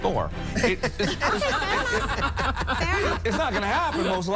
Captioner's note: Sharks laughing